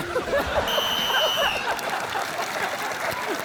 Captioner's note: blows whistle